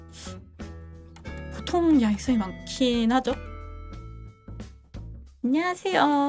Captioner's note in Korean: 콧방귀